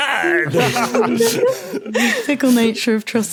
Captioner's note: group laughing